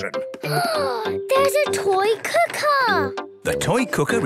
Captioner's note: gasps